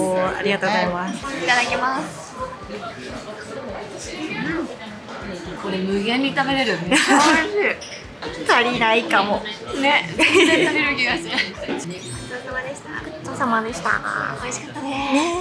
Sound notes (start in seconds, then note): 10.0 laughs